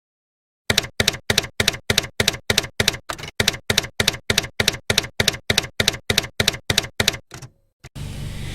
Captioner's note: typewriter keys clacking